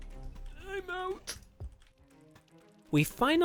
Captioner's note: old man noises